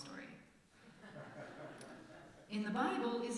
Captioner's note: laughter from congregation